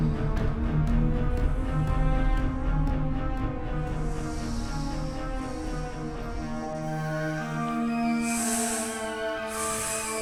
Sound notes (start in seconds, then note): 6.3 snake hissing